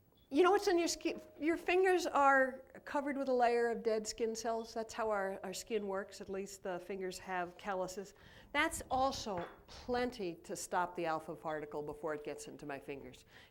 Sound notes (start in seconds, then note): none